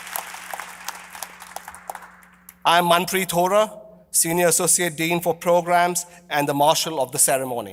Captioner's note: applause